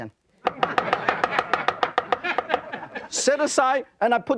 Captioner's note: audience laughing